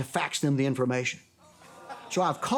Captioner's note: studio audience groans